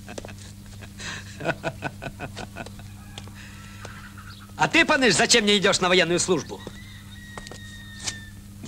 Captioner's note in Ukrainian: сміх